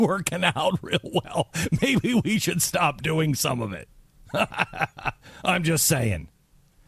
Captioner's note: laughs